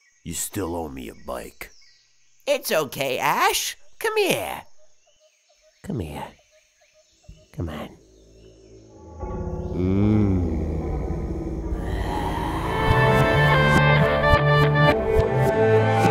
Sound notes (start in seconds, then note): 9.0 Brock's humming and getting that piece of Ash